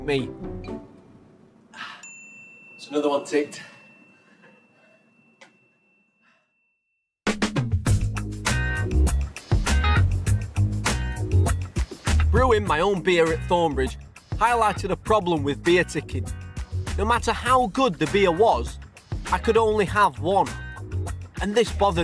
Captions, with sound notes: (gasps) (ding) It's another one ticked. (upbeat pop music) Brewing my own beer at Thornbridge, highlighted a problem with beerticking, no matter how good the beer was, I could only have one, and this bothered me.